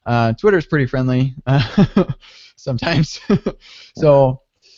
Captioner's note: laughing